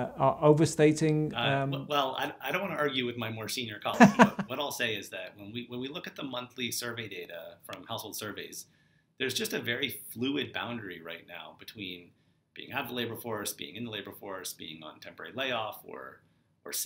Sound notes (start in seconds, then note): 3.9 laughs